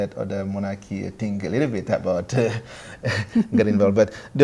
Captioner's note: laughs